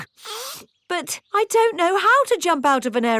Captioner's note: sniffs